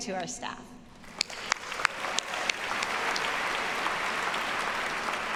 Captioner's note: audience applauding